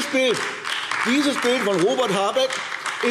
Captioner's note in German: Beifall AfD